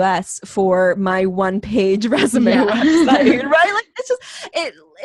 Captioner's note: laughs